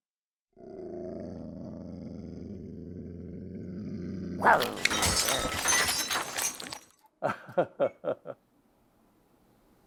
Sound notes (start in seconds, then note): 0.6 dog growls; 4.4 plates breaking; 7.2 man laughs